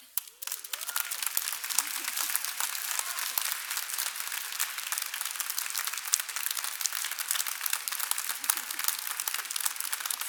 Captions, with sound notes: ON BEHALF OF THE GRADUATING CLASS OF 2019 AND THE GSA, WE, THE OFFICERS OF THE GRADUATE SCHOOL OF SOCIAL WORK, PRESENT WITH THE FACULTY OF THE YEAR AWARD. [APPLAUSE]